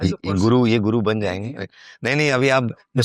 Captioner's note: speaking in foreign language